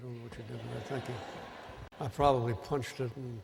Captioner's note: laughter